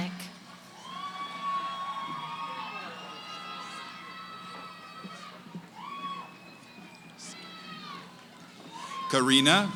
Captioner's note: cheering